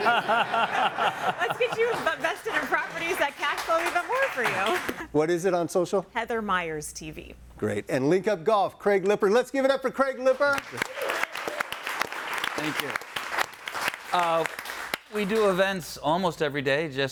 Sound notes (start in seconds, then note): 0.0 all laughing; 10.3 all clapping